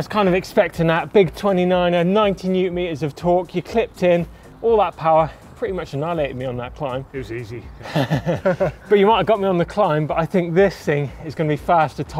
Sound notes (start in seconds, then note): 7.7 laughing